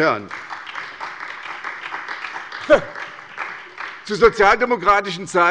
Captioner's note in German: Beifall bei der SPD